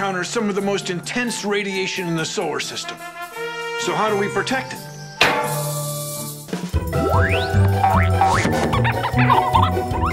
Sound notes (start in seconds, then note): 2.9 trumpets; 5.2 clang